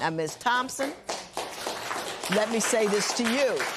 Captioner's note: applause